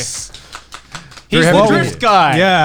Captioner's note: all clapping